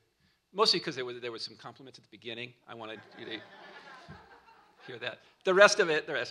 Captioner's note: laughter